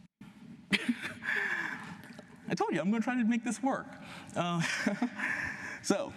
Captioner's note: laughs